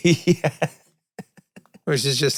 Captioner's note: Glenn laughs